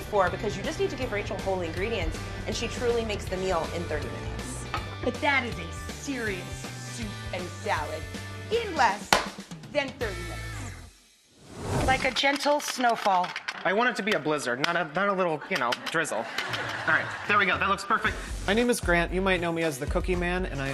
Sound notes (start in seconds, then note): 15.4 laughter